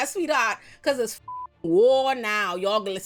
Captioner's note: beep